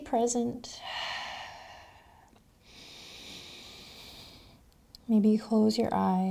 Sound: heavy breathing

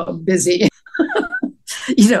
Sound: laughter

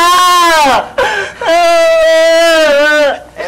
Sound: wailing

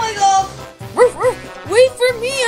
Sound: Wiggles barking

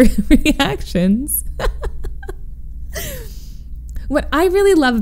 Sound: laughs

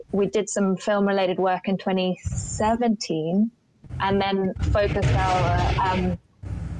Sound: audio distorts

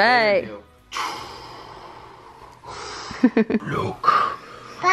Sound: making sound effects

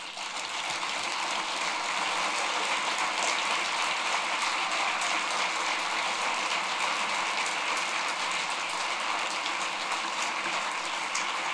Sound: applause

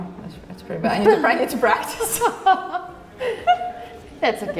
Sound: both laugh

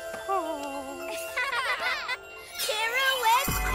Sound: laughter

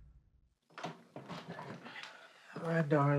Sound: door opens, foot steps

